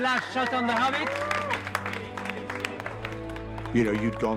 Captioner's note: all applauding